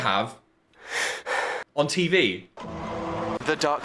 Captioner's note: heavy breathing plays